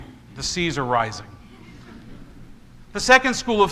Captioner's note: congregation laughs